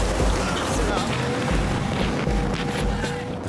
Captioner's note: water splashing; lifeboat engine whirring